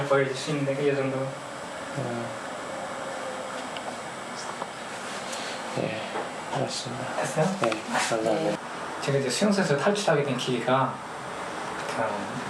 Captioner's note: speaking in foreign language